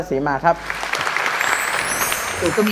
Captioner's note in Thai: เสียงปรบมือ